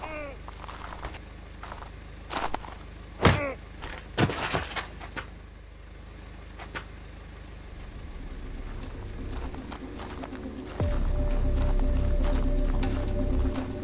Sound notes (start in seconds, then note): 0.0 Dan groaning; 3.2 punches thudding; 7.8 dramatic music